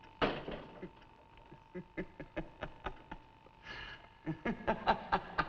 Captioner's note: Mrs. Newless laughing